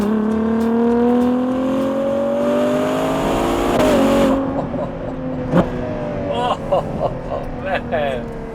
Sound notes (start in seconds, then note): 0.0 acceleration